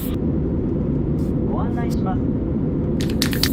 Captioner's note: plane announcement in Japanese